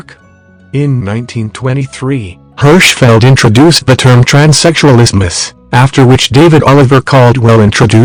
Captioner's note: German